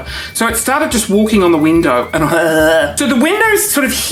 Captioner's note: gags